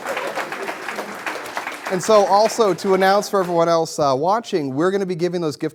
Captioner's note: applause